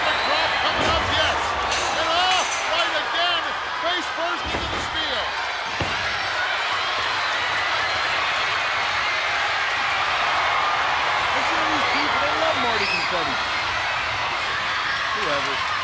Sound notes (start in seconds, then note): 0.0 audience cheering; 5.4 audience cheering; 5.6 body thuds